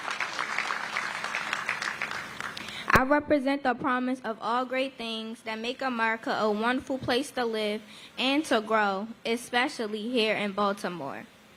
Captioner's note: applause